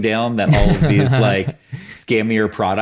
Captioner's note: laughs